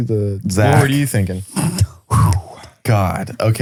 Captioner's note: exhales